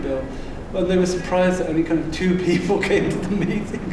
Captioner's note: laughing